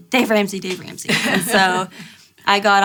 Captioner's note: laughter